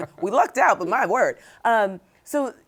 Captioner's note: both chuckle